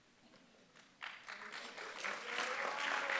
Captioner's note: applause